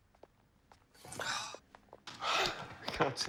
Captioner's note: gasps